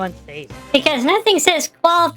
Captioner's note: sarcastically